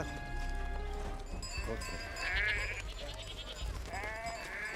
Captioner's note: sheep bleating and bell ringing